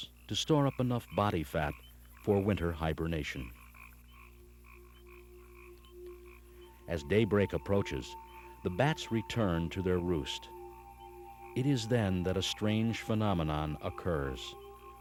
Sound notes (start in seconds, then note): 3.7 bright orchestral music; 3.7 tree frogs croaking